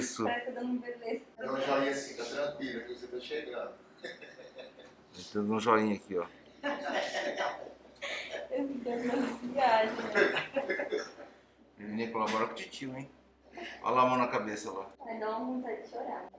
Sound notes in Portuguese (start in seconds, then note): 7.2 risos